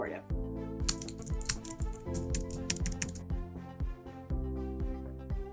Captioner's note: keyboard keys clicking